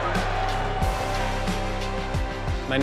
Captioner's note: audience cheering